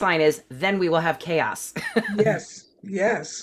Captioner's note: laughing